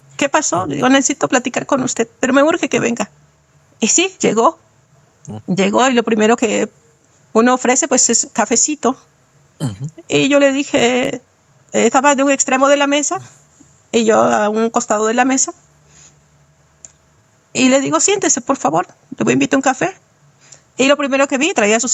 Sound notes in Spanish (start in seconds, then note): 9.6 carraspeo